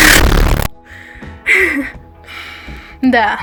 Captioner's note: shortness of breath